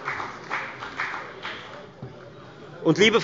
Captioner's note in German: Beifall bei der FDP